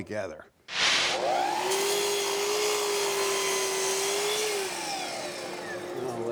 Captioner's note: machine cutting